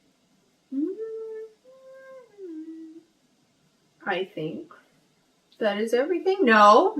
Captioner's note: hums